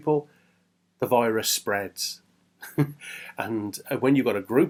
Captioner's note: chuckles